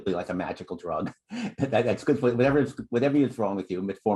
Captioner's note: laughter